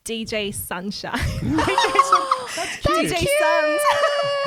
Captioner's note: laughing together